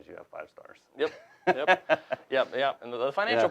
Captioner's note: laughs